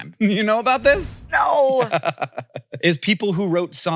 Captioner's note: laughs